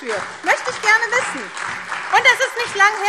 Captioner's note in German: Beifall SPD und DIE LINKE